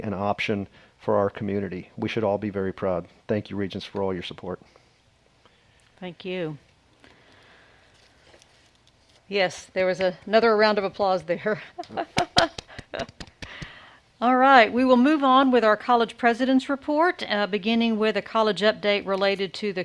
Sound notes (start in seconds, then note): 11.5 laughs; 11.8 member applauding